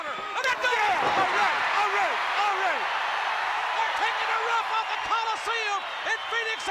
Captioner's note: applause